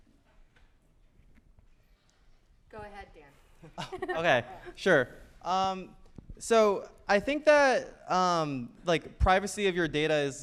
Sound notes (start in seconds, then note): 3.6 chuckles; 3.6 panelists chuckle